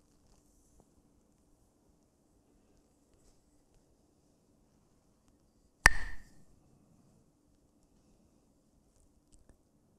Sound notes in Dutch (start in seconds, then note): 5.8 klakt met stokjes